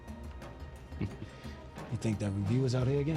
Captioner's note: chuckles